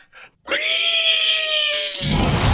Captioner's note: squeals